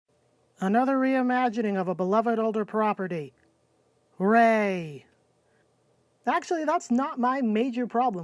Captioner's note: sarcasm